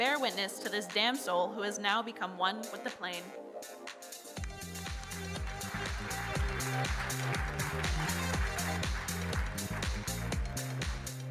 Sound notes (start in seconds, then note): 4.8 audience applauding; 8.5 upbeat music